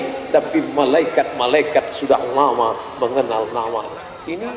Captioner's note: drone Coming